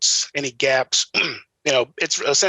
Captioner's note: clears throat